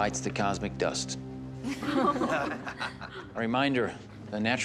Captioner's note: chuckle